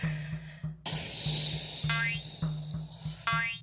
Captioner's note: dirt clumps boinging; Koha sighing; suspenseful drum music